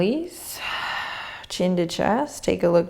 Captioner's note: exhaling